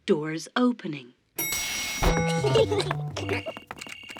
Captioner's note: elevator bell dings; kids giggling